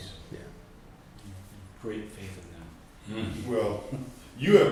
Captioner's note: background laughter